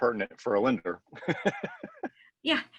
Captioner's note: laughs